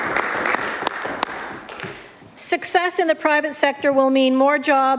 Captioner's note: applause